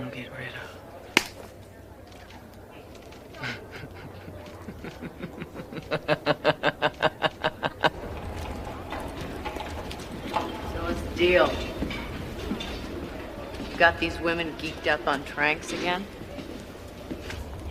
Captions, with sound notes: Well, I see somebody I'm gonna get rid of. (Sondra laughs) So what's the deal? You got these women geeked up on tranks again?